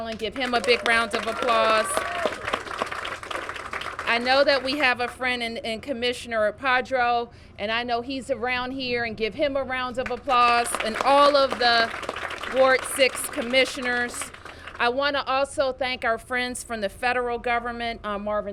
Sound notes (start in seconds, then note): 3.4 applause; 10.0 applause